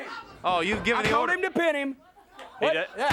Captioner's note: hands thudding